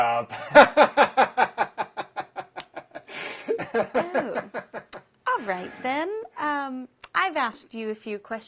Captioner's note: laugh